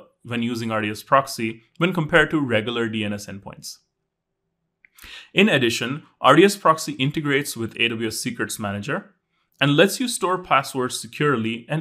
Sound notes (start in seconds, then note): none